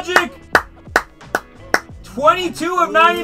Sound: clapping

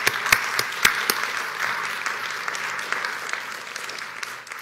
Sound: applause

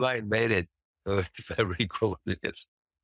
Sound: chuckles

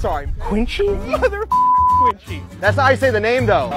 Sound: beep

